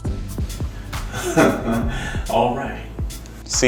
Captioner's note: giggling